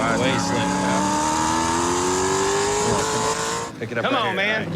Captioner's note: engines rumbling